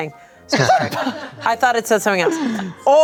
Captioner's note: everyone laughs